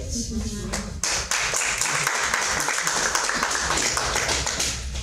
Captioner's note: audience clapping